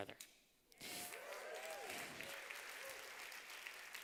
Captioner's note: applause